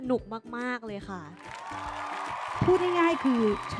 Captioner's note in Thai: เสียงปรบมือ